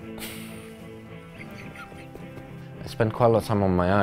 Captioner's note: chuckles